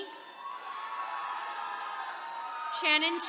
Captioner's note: attendees cheering